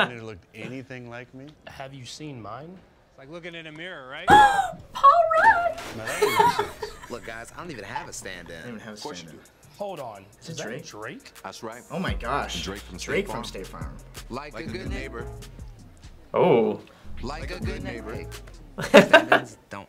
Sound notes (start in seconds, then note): 4.3 laughs; 4.4 gasps